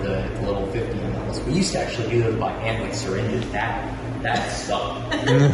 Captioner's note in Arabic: يضحكان